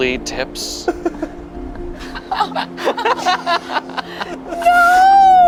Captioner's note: group laughing